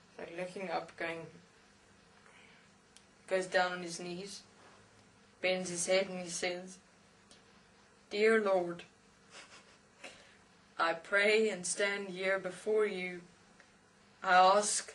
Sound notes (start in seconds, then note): 9.3 laugh